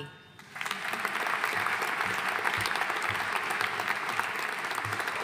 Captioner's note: audience applauding